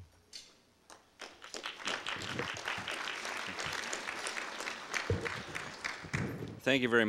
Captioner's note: audience applause